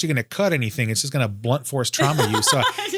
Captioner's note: laughs